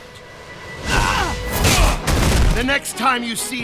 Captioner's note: wincing